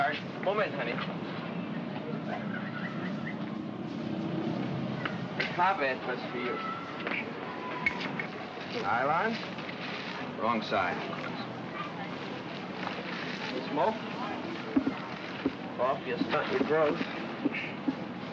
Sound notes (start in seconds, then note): 1.7 city street sounds